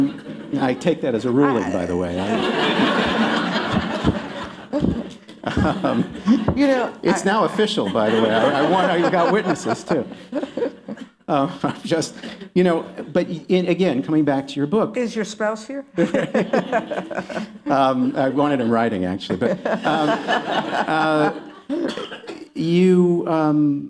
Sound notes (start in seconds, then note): 0.1 laughter; 7.7 laughing; 13.6 laughing; 17.7 laughter